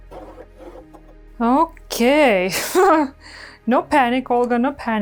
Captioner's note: laughs